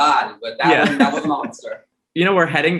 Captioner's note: laughs